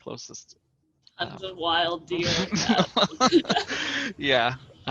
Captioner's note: laughter